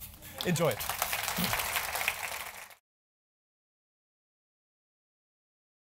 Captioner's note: applause